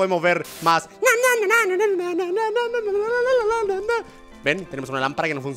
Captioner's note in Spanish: imitando a NyanCat